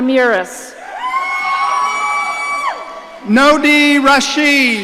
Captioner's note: audience cheering